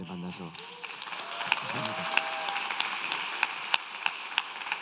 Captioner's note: applause and cheers